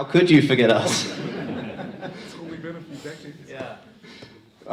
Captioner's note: crowd laughs